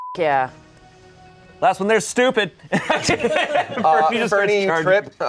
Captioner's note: beep; laughs